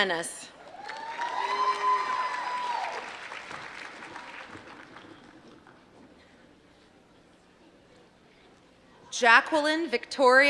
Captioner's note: applause